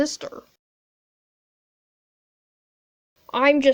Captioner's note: prolonged silence